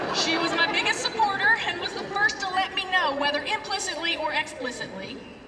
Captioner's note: laughter